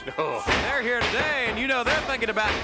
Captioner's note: knees thudding